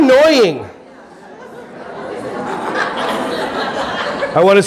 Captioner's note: audience laughing